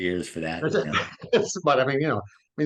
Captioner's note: laughter